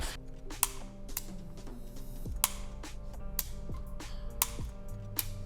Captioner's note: safety clicking repeatedly